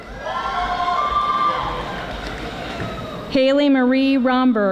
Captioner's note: audience applauding